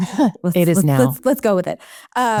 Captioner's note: chuckles